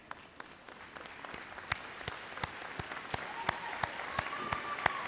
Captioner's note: audience applauds